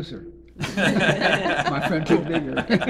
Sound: all laughing

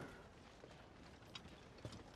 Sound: speaking in mandarin

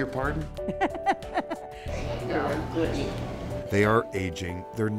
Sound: sister laughing

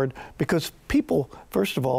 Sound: none

